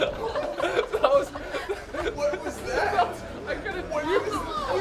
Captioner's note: laughing